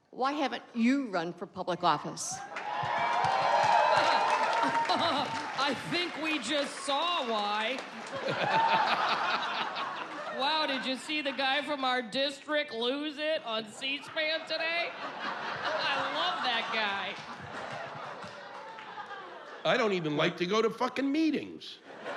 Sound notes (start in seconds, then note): 2.6 cheers; 3.8 laughs